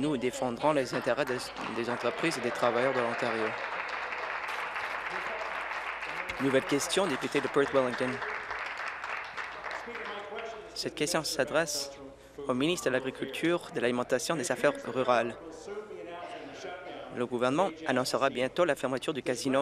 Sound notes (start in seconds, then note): 7.9 applause